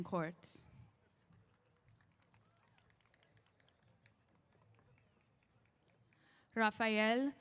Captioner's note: applause